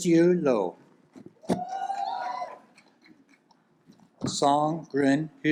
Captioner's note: audience applauds